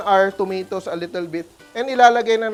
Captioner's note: sizzles